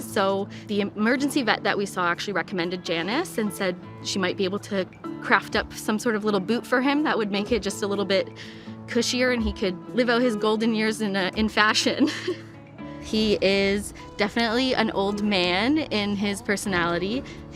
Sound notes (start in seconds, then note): 12.0 laughing